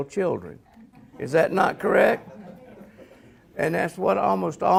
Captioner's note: audience laughs